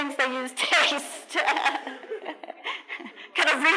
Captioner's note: laughter